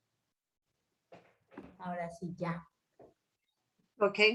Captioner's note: speaking spanish